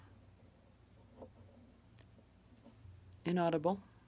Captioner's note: speaking French